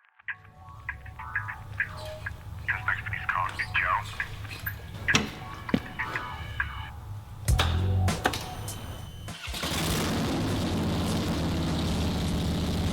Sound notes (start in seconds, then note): 0.2 soft music; 7.8 bike engine roaring